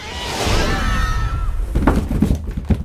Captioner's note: tugging sounds; screaming